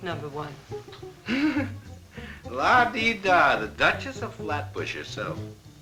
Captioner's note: laughs